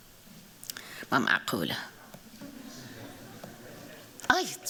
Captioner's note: non-english speech